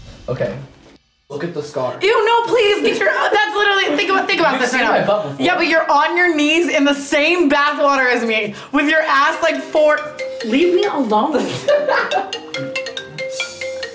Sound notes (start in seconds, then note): 9.5 phone ringing; 11.3 laughing